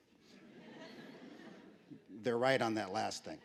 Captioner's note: laughter